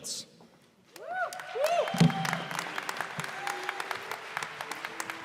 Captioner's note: cheers and applause